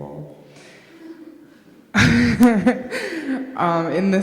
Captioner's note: laughs